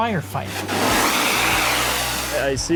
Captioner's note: water splashing